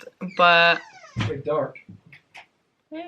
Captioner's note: door creaks